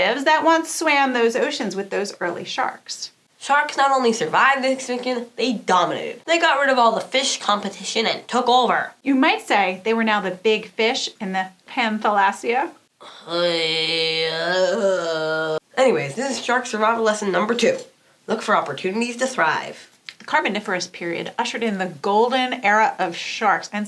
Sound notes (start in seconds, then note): 13.0 groan